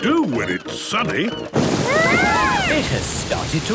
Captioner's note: shouting